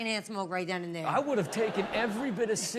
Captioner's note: audience laughs